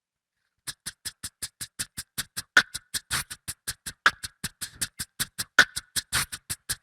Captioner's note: beatboxer performs